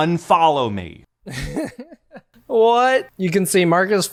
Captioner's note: laughing